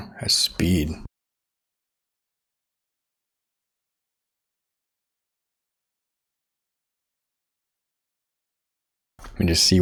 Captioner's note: silence